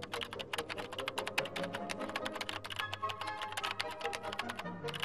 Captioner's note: keyboard clicking; upbeat music